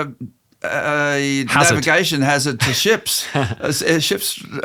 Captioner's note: chuckles